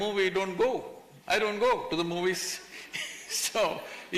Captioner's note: laughs